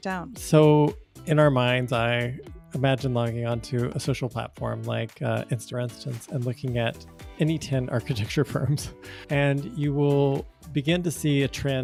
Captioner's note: chuckles